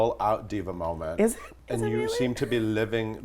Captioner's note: whispers